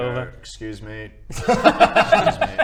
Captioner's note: laughs